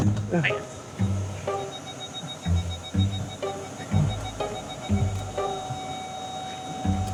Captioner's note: car beeping